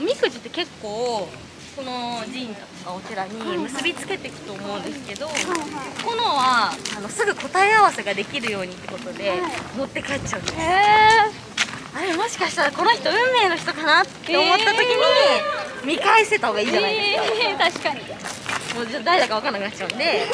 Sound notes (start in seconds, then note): 14.6 laughs